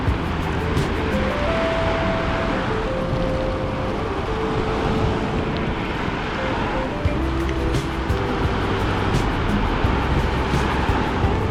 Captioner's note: wind Blowing